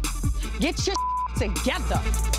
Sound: beep

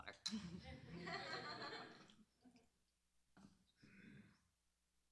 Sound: laughter

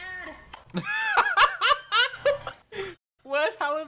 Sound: laughing

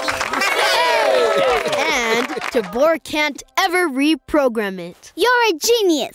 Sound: cheering

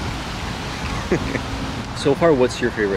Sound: laughing

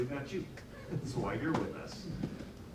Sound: laughs

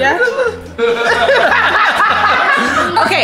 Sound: all laughs

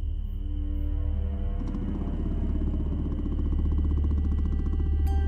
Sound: motorcycle sound

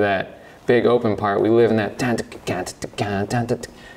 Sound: vocalizes

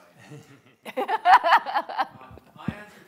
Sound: all laughing

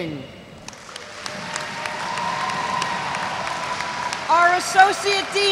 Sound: audience cheers

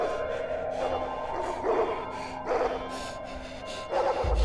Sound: heavy breathing

